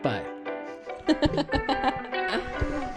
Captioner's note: giggles